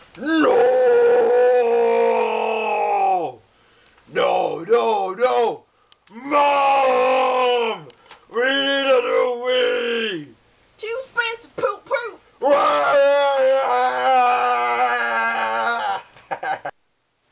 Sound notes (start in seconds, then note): 16.0 laugh